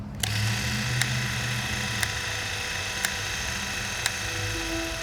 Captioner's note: device whirring